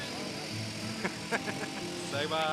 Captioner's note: laughing